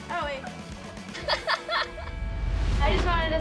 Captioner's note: laughing